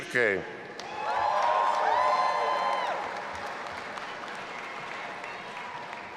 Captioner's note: audience applauding and cheering